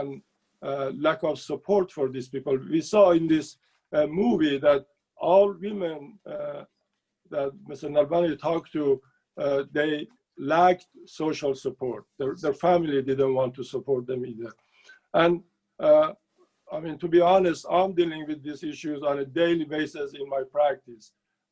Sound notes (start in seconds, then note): 9.2 speaking Farsi